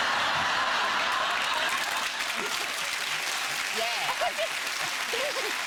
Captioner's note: audience laughing